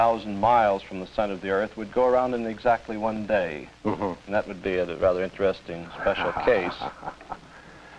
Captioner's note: laughter